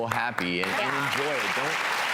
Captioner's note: audience applauds